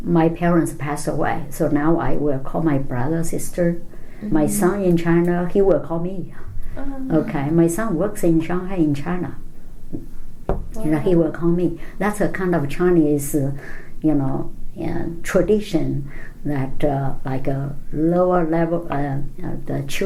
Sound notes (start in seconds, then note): 10.5 hits table